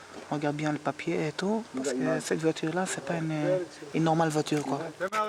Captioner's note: Arabic spoken audio